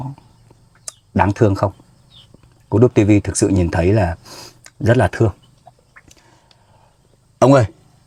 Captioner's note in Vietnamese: khịt mũi